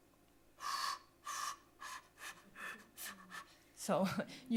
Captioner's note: air blowing